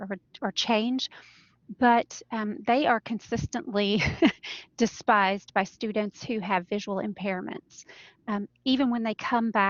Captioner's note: laughter